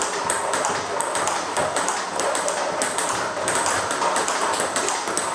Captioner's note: ball ping pong hitting continues